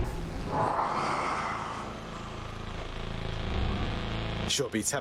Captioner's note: growl